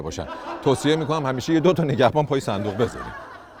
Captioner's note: laughter